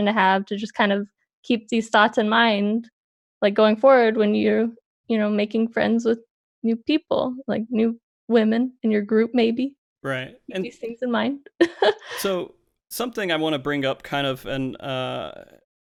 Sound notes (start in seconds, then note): 12.1 laughs